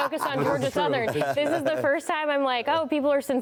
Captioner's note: laughter